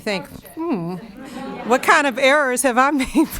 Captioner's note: audience laughing